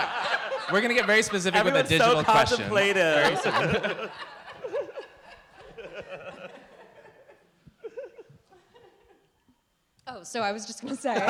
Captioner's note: several voices - laughter